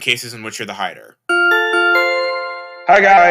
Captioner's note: the loudspeaker turns on again